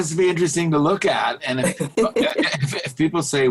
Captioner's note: laughing